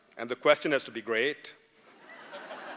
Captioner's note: laughter